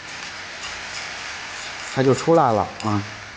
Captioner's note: it Sizzles as the Sauce Hits